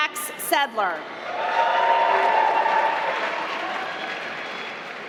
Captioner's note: applause